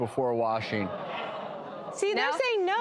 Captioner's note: audience gasps